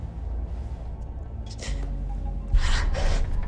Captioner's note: gasps